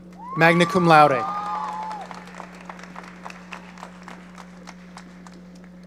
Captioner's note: audience cheering